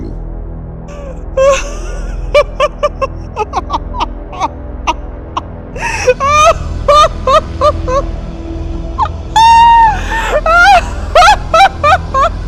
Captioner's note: laughs compulsively